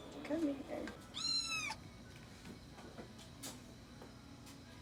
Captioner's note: cat mewing